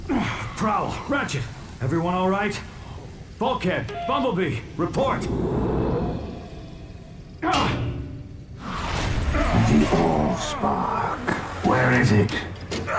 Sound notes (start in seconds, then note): 7.4 grunting